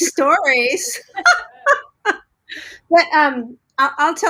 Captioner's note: laughing